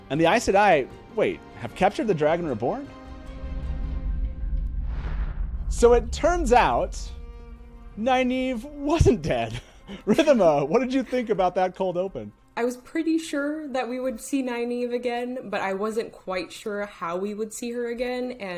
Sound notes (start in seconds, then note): 3.7 upbeat music; 9.4 laughs